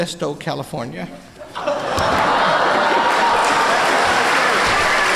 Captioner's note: laughter and applause